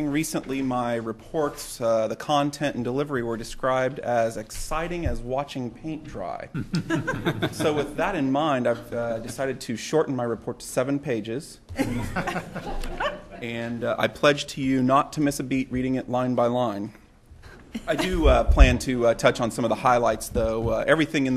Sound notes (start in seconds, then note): 6.5 laughter; 11.7 laughter